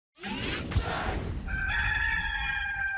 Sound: electric zap; rooster crowing

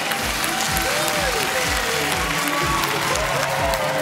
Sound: cheering

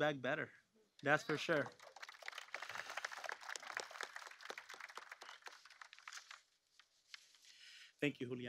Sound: applause

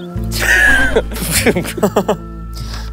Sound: laughs

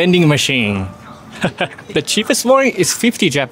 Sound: chuckles

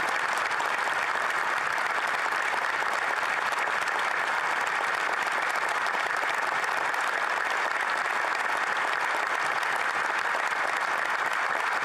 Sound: applause

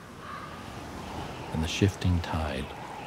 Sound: whistling wind

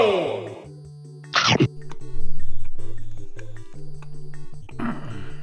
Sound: chomping sound; grunting

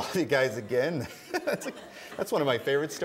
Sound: laughing

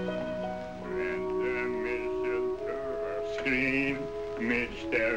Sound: swan singing

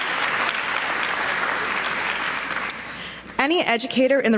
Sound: applause

